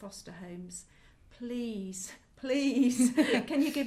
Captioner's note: laugh